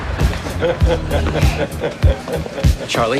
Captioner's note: man laughing